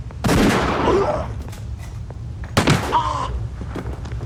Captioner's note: groaning; grunting